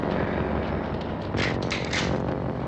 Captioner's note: rifle cocks